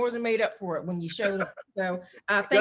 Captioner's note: laughs